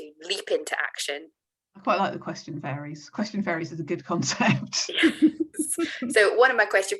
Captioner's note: laughs